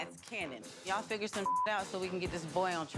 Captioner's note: beep